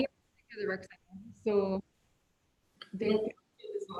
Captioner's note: woman talking quietly